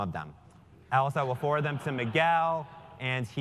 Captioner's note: laugh